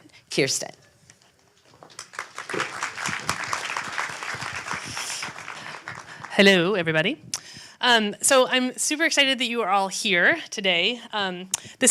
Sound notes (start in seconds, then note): 1.8 audience applauds